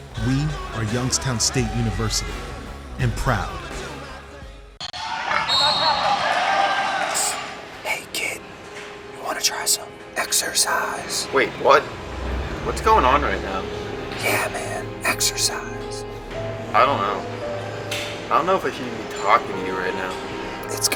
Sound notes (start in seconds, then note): 5.3 whistle blowing